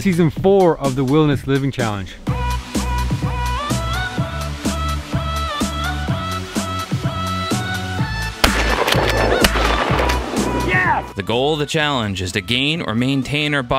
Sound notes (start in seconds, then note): 2.4 upbeat music; 8.4 gunshots